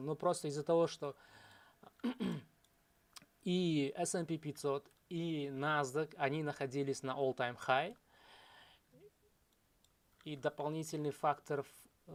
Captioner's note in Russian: откашливается